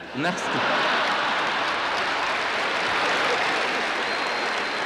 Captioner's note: audience laughter